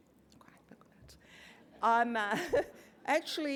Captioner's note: laugh